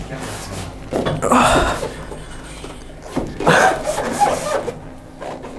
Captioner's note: grunting